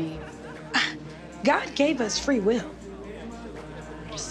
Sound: scoffs

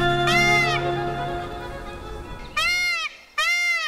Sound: peacock cries

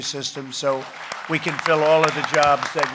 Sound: applause

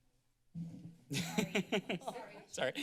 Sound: laughter

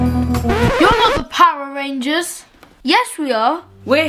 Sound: record scratching

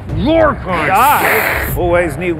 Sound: growling and hissing

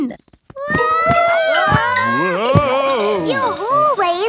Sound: all yelling

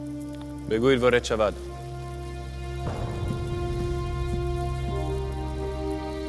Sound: Persian speaking in foreign language; Xerxes speaking in foreign language

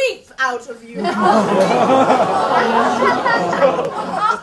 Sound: audience oohs

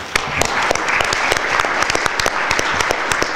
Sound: applause

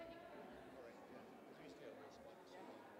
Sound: none

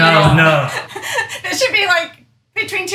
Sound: chuckles softly

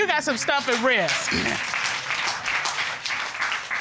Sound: audience applauding

